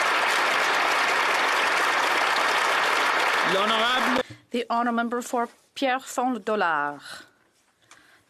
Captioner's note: applause